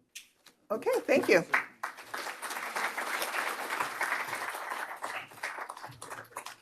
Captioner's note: applause